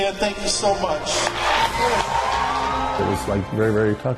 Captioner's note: audience cheering and applauding